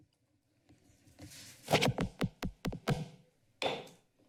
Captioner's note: rustling